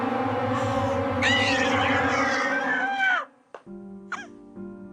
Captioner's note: dramatic music; screaming; soft piano music